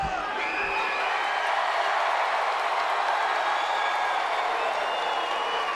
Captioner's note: crowd cheering and clapping